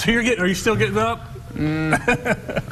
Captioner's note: laughing